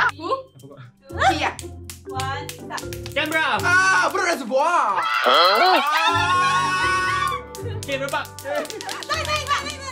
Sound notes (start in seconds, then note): 5.0 intense screaming